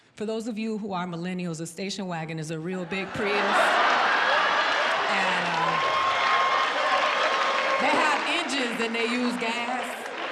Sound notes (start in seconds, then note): 2.8 audience laughing